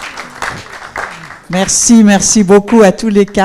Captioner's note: applause